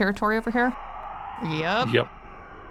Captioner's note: shrieker noise